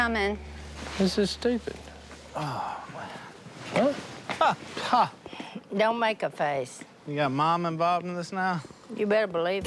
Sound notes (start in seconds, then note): 2.3 sighs; 3.1 Jase scoffs